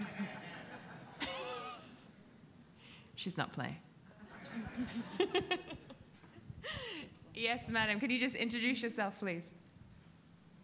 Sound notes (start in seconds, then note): 0.0 audience laughing; 4.3 laughing